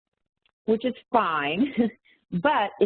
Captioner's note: chuckles